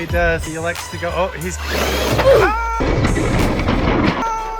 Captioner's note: car slamming